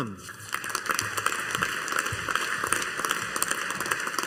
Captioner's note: audience applauding